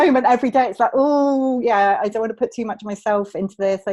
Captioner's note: groans